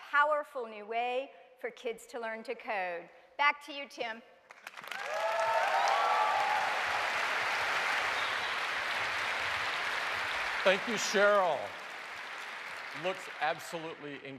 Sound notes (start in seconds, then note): 3.0 cheers and applause